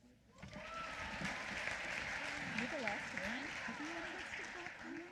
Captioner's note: applause